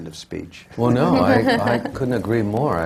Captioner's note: laughter